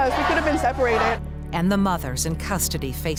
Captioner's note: protesters chant